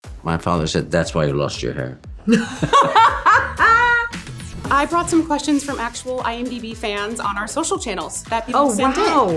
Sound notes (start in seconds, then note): 2.3 laughs